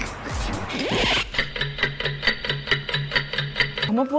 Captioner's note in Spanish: Tictac de reloj